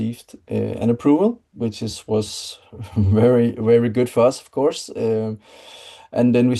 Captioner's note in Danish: chuckles